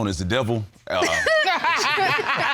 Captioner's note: all laugh